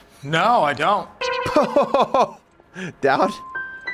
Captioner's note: laughs